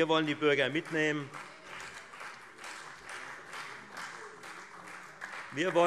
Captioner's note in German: Beifall Freie Demokraten